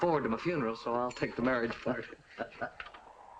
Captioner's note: laughs